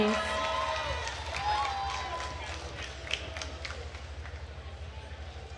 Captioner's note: attendees cheering and applauding